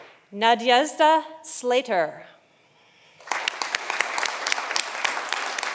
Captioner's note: audience applauding